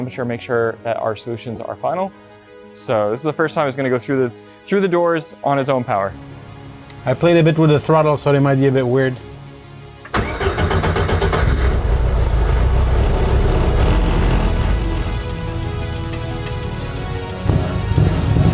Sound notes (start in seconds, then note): 10.0 engine starts; 12.2 engine idles; 14.7 upbeat music continues